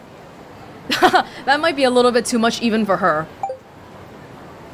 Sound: chuckles

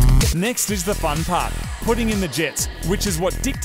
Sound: voice over

